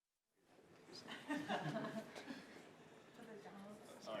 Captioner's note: group laughing